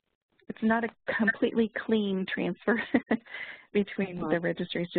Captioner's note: laughs